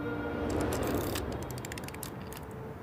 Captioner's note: keyboard clacking